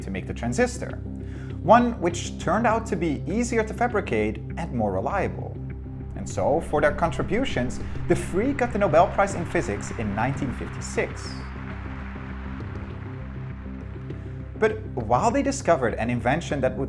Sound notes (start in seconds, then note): 12.0 audience applauding